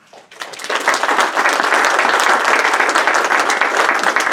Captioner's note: audience applauds